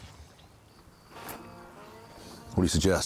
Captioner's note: mouth spits